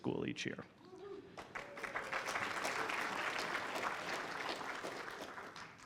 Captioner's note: applause